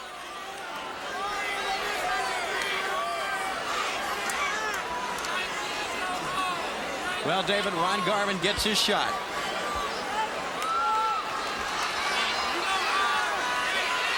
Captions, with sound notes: Well, David, Ron Garvin gets his shot. (crowd cheering)